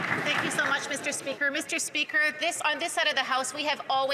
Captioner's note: applause